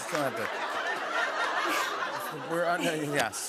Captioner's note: laughter